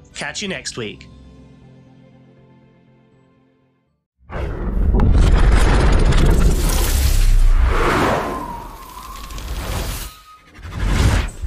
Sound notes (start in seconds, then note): 6.4 whooshing